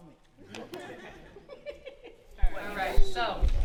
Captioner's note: all chuckling